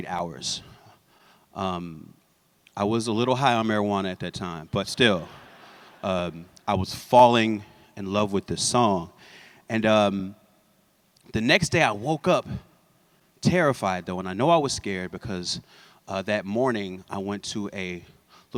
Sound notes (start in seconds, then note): 5.3 laughter